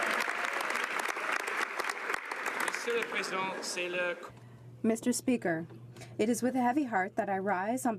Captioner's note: some Applause